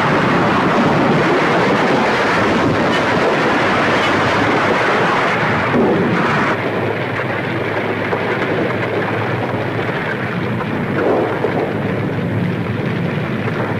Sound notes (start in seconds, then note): 1.1 debris clattering; 6.8 fire crackling